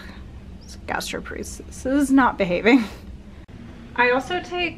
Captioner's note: chuckles